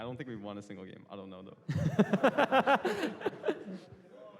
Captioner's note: laughter